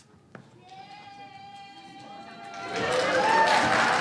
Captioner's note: cheering